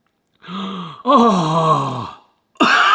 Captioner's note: gasps; coughing